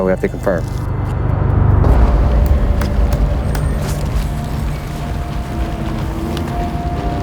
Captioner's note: anxious music; wheels humming